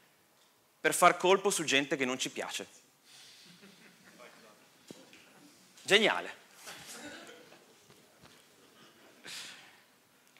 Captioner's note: laughter